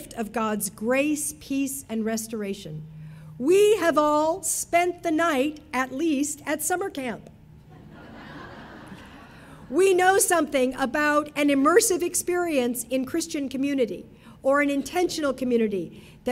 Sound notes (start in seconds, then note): 7.7 audience laughing